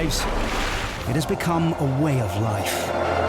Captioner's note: water splashing; helicopter blades whirring; lifeboat engine whirring